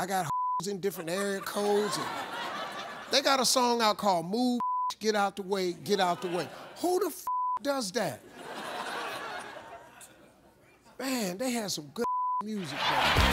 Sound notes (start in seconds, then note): 0.2 beep; 4.6 beep; 7.2 beep; 12.0 beep